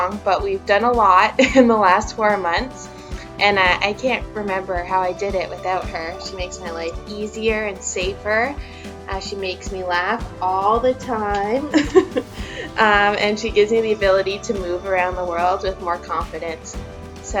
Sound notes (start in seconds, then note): 11.7 laughs